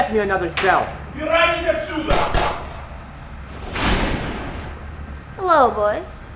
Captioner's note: guard speaking Russian